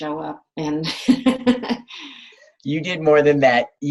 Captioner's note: laughs